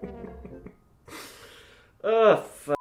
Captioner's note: inhales